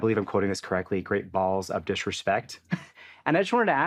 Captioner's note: chuckles